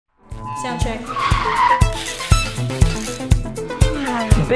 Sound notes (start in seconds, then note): 0.2 tires squealing; 2.4 digital music